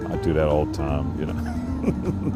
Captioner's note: chuckles